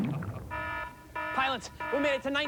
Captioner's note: siren